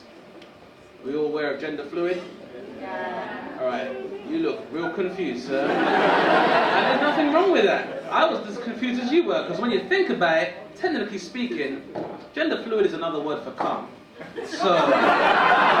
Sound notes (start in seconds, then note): 5.5 audience laughing; 14.2 audience laughing